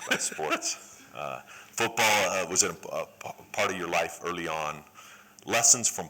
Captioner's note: laughter